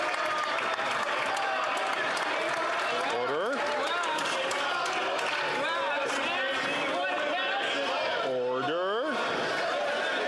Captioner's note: some Applause